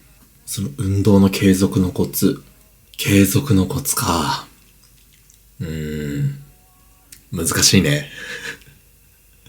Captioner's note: laughs